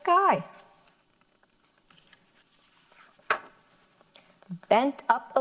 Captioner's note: paper rustles